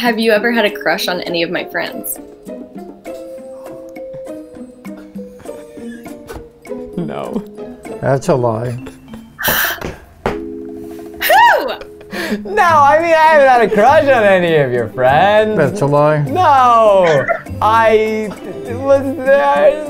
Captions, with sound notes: - Have ever had a crush on any of my friends? (man giggling) - No. - That's a lie. (woman gasps) - Who? - No! I mean, I haven't had a crush on any of your friends. - That's a lie. - No!